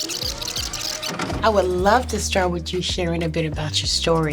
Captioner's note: videotape rewinding; videotape plays